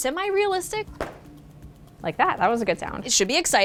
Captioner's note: clap